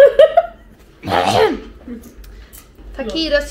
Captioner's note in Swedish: Harklar sig